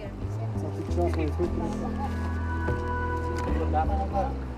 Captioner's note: people chattering